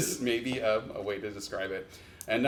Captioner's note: none